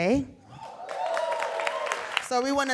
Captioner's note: audience cheering and applauding